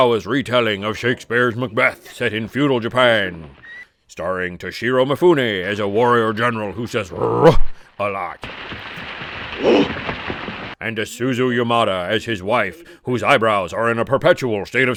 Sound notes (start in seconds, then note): 7.1 gutteral growl